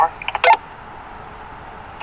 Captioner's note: radio beeping